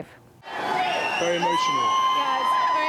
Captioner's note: crowd cheering